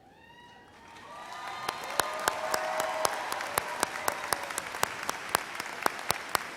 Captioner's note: thunderous applause and cheers